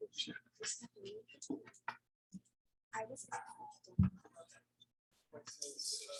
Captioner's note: panelists chattering indistinctly